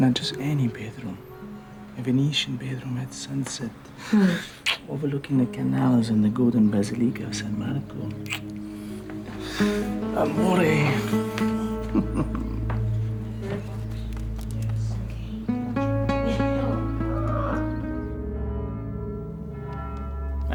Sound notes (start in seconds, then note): 0.0 in italian accent; 11.6 chuckling; 18.3 church bell tolling